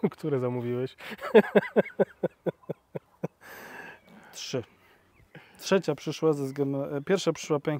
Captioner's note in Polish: śmiech